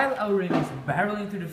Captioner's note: crash